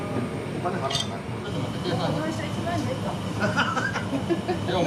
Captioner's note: laughter; laughs